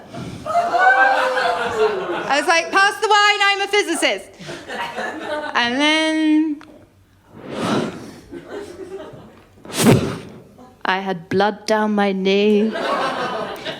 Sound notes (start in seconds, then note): 0.5 laughter; 4.4 laughter; 9.6 woosh... thud